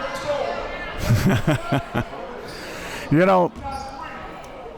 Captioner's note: laughs